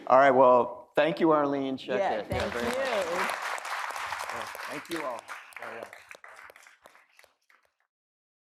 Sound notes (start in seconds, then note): 2.3 audience applauding